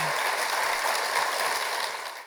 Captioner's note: applause